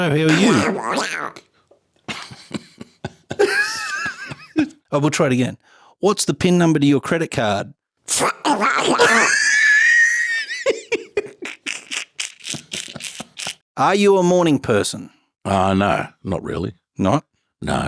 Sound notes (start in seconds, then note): 0.0 makes Donald Duck sounds; 11.4 makes Donald Duck sounds